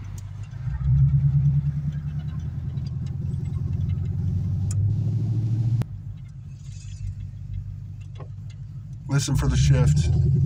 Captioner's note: engine exhaust